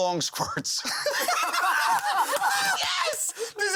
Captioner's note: laughter; laughing